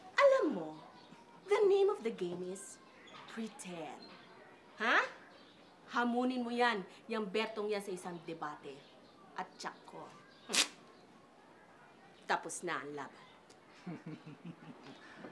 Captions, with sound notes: You know, the name of the game is pretend. Okay? Challenge that Berto to a debate and I'm sure... [scoffs] the fight is over. [laughs]